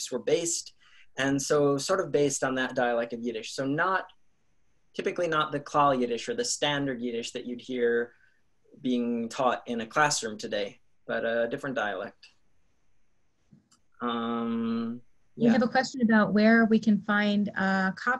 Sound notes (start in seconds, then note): 5.4 in Yiddish